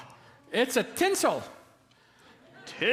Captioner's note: laughter